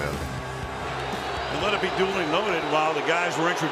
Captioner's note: booing